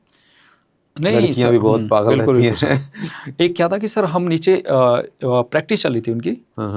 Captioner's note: laughs